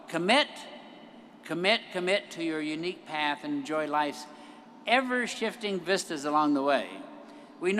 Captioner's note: none